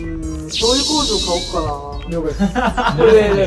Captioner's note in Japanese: 効果音 シャキーン✨